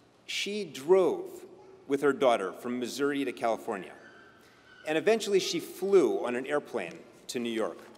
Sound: none

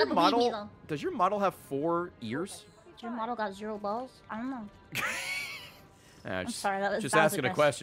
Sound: laughs

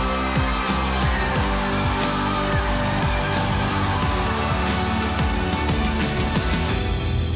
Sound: cheering

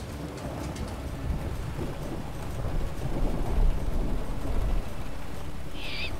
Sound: raining

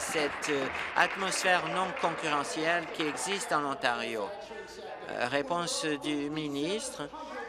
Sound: applause

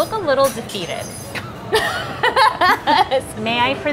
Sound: both laughing

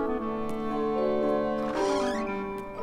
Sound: door creaks

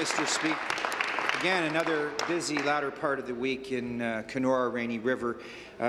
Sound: applause

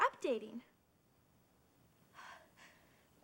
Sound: si ghs

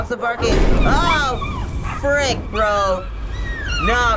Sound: dogs whining in pain

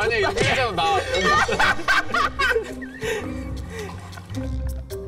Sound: laughing too loud

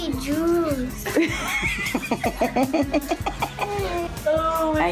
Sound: laughing

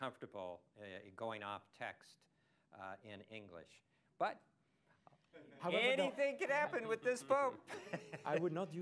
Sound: laughter

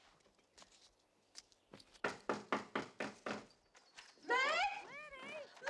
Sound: Knocking

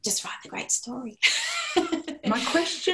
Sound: laughter

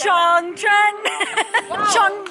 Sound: laughs

